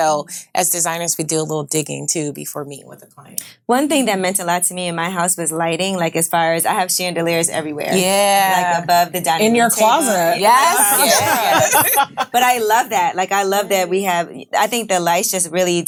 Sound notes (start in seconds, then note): 9.8 ladies laughing